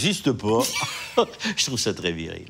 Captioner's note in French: rires